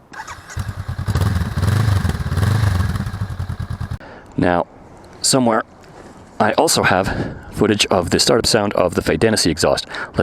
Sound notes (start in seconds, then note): 0.0 stock exhaust startup